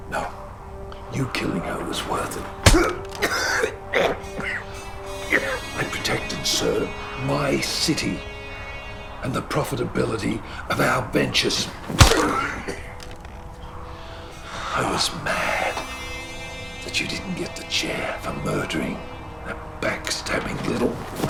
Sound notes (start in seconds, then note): 2.6 smacking; 2.6 coughing; 11.8 smacking; 21.1 smacking